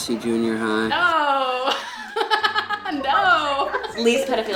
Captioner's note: laughs